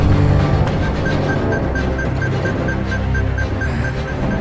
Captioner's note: system beeping